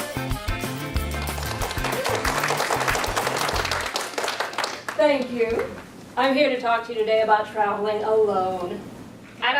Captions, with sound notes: (audience applauding) - Thank you. I'm here to talk to you today about traveling alone.